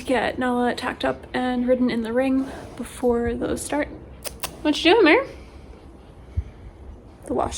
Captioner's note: kissing noise